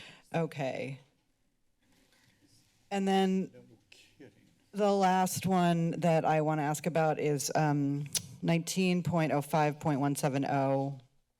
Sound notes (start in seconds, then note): none